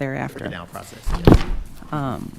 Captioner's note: packet hitting table